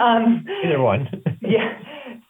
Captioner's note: laughs